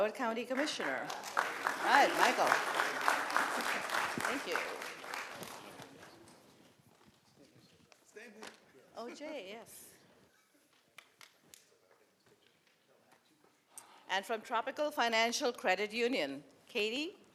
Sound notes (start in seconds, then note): 0.4 applause